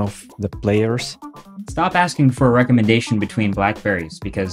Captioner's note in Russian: закадровый голос